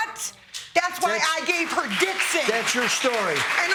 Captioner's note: audience clapping